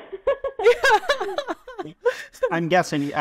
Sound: chuckles; laughing

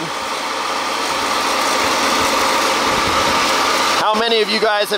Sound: machine engine roaring

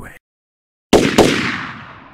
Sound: gunshots

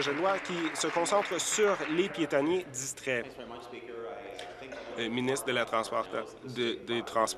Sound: applause

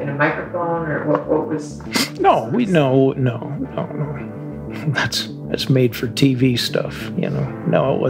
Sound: chuckles

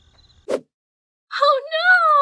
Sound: crickets; whoosh

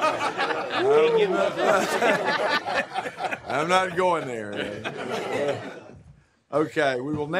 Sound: laughter

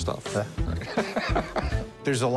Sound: laughs

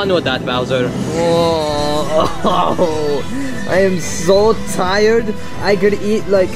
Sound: groaning

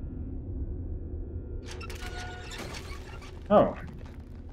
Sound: machinery squeaking

